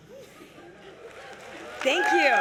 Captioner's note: applause